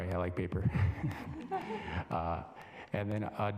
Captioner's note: chuckles; assembly laughing